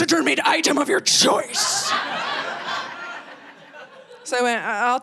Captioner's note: audience laughing